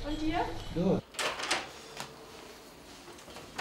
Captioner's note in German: Klacken der Türklinke